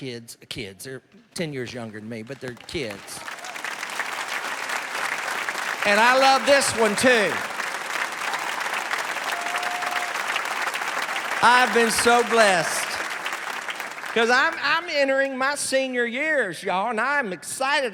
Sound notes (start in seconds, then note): 3.5 cheers and applause; 7.3 cheers and applause